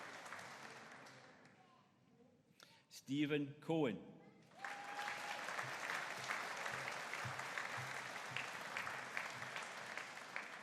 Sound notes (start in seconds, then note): 4.5 audience cheering